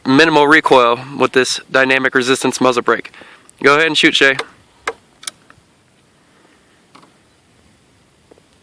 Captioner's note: clicks off Safety